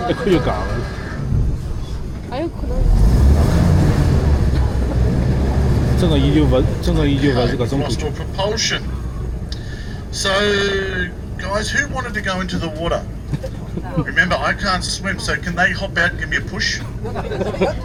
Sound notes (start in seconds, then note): 8.3 laughing